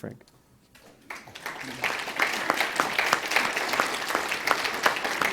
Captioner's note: audience applauds